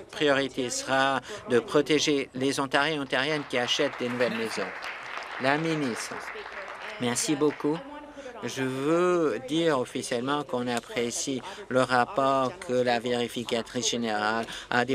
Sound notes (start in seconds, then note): 7.0 applause